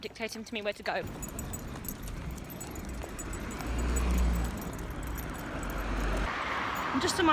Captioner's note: sound of footsteps, jangling dog lead and traffic